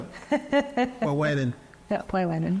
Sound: laughing

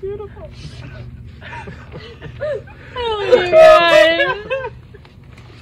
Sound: team sniffing and sobbing

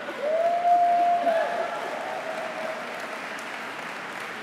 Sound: applause

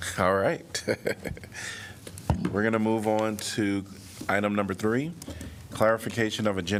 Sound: laughter

